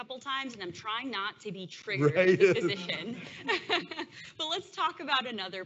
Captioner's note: laughs